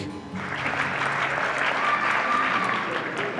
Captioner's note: applause